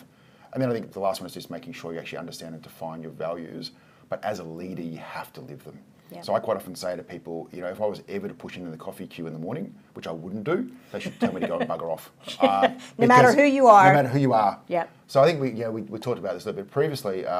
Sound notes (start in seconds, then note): 12.3 laughing